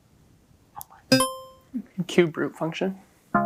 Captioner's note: buzzer chimes